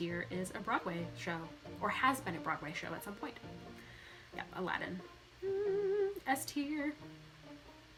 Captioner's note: hums